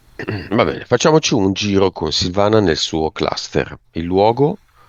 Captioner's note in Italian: schiarire la voce